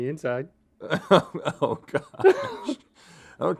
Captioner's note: Rhett laughs